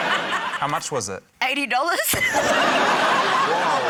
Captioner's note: laughter; laughter